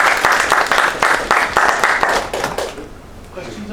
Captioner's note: applause